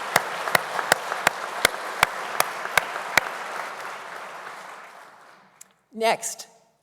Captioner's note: applause